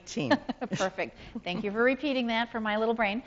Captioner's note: laughs